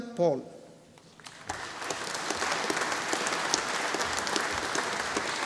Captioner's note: audience applauding